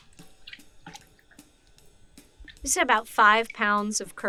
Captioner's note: water drips; soft percussive music